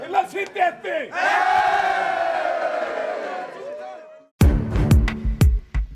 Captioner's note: players cheering; upbeat music